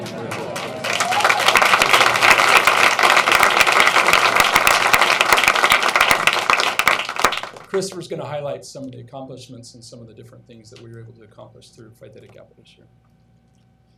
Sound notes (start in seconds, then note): 2.3 applause